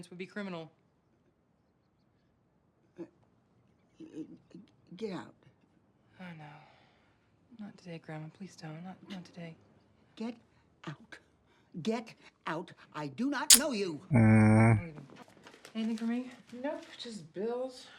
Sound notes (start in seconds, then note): 14.1 tsk